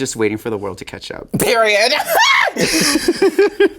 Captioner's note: laughs; Sasha laughing